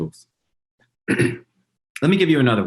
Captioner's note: throat clearing